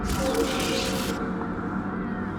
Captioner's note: shutter clicks